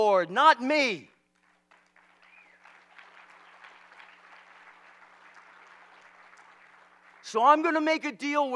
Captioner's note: applause